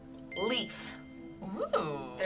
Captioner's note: beep; word twinkles